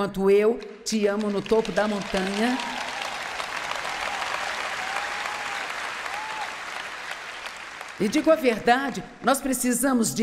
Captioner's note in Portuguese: audiência aplaude